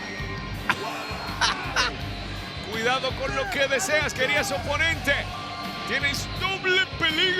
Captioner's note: laugh